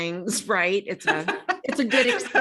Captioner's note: laughs